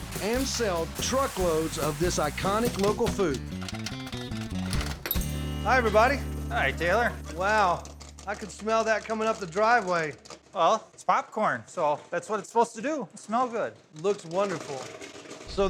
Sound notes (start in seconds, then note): 3.5 popping